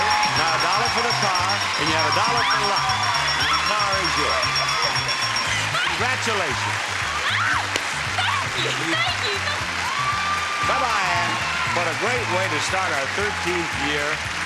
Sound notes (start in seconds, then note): 4.4 audience applauding; 9.7 audience applauding; 9.7 upbeat music